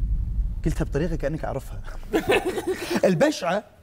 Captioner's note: laughs